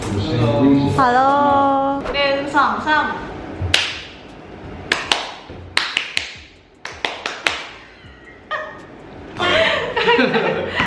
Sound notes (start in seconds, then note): 4.7 continue clapping for no reasons